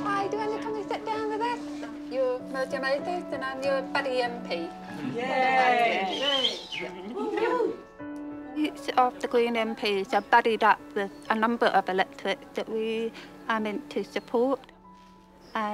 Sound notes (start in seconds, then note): 5.2 cheering